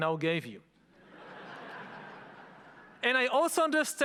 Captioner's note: audience laughing